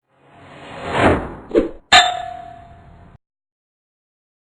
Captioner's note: air whooshing; arrow hitting target